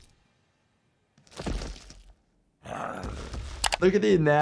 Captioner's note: Hulk thudding